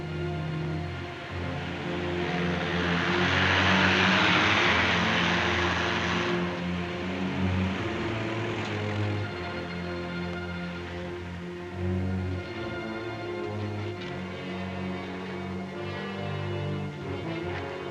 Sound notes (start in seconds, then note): 1.7 truck whooshes past; 6.6 soft suspenseful music